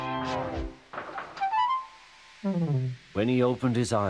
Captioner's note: Thomas' train gently bumps as he stops